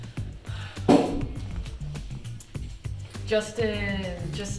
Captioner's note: object thumps